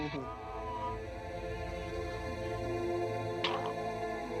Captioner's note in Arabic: صراخ